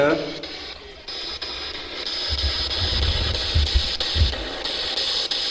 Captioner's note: static buzzing